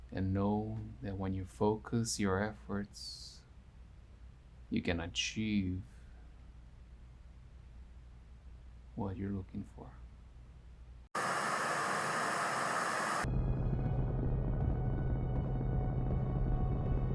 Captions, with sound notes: and know that when you focus your efforts, you can achieve what you're looking for. (static buzzing) (gentle ominous music)